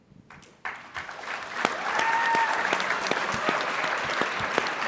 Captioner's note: audience clapping